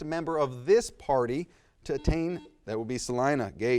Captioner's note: buzz